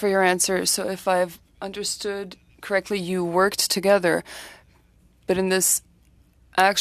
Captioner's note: speaking French